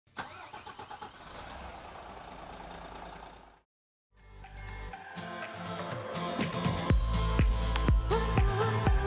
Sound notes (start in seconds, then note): 0.2 engine roaring; 4.2 upbeat music